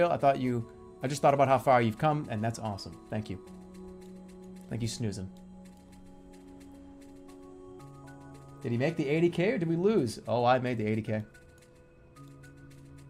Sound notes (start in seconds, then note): none